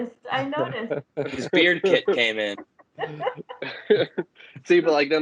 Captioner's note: laughter